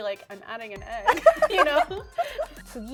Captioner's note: laughter; speaking Japanese